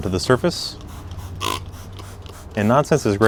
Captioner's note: bottle sprays